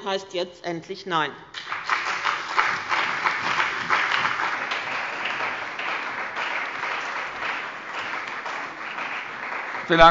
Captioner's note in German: Beifall bei dem BÜNDNIS 90/DIE GRÜNEN und der CDU